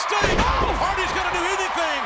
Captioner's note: bodies thud